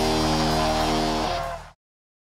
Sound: audience cheers

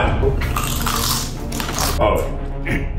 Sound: crunching

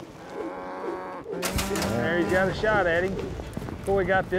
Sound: cow moos, gate clanks

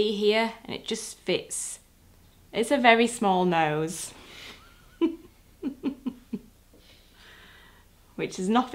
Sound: laughs

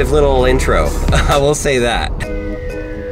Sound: laughs; tranquil music

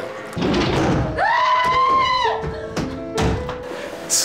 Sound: screams

